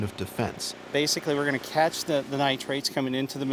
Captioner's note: voiceover